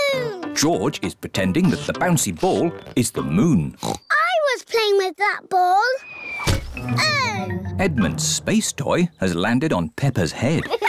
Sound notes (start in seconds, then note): 3.8 oinks; 6.4 thudding